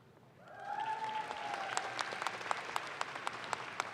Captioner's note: audience claps